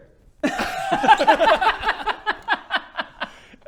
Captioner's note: sadistic laugh